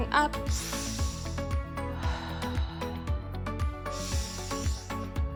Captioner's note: inhaling and exhaling deeply